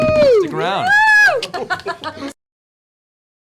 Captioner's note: cheering